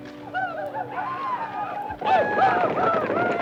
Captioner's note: Apaches howl